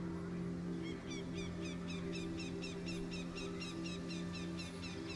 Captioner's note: bird screeching